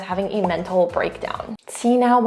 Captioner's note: bubble bursting